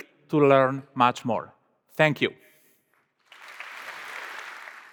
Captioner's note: applause